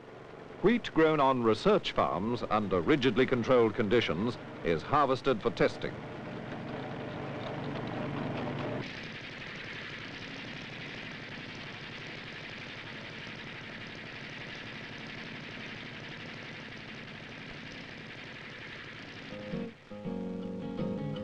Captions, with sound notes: Wheat grown on research farms under rigidly controlled conditions is harvested for testing. (faint sound of machinery)